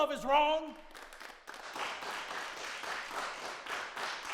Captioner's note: crowd clapping